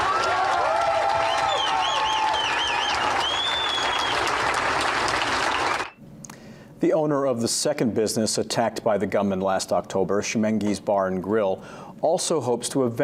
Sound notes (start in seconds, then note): 0.0 applause